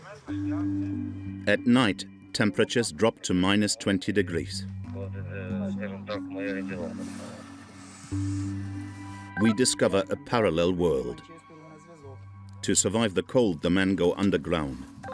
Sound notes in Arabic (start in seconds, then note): 5.0 الصوت المنطوق الأوكراني